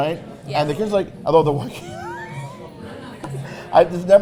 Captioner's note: laughs